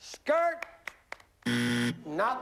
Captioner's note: buzzer